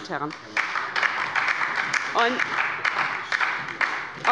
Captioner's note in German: Beifall bei der LINKEN und der SPD